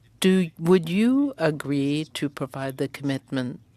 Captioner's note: speaking French